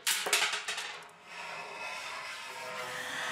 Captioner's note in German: Schleifendes Geräusch